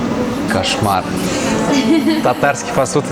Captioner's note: stuff laughing